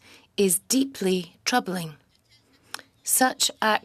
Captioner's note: speaking French